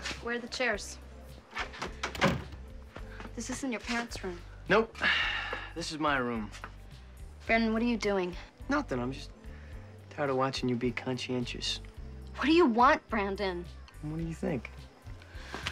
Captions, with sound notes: Where are the chairs? (door thudding) This isn't your parents' room. - Nope. (sighs) This is my room. - Brandon, what are you doing? - Nothin'. I'm just tired of watchin' you be conscientious. - What do you want, Brandon? - What do you think?